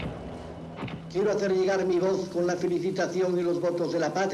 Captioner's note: Franco speaking Spanish